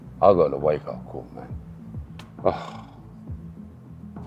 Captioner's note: sigh